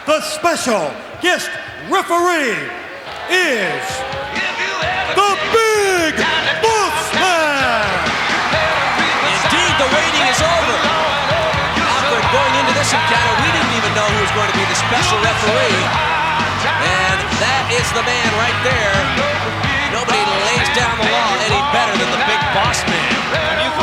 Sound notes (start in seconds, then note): 7.9 audience cheering; 7.9 upbeat music; 19.1 upbeat music